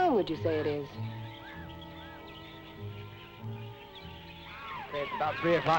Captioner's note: birds chirping; gentle music